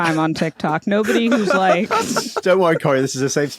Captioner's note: laugh